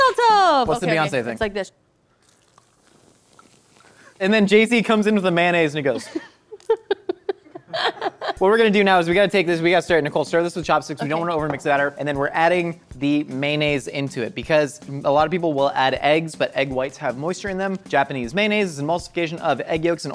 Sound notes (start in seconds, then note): 7.5 laughs